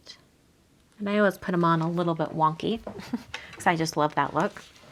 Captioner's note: laughs